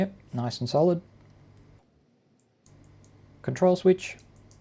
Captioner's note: silence